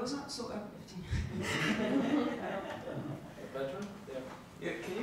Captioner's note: audience laughs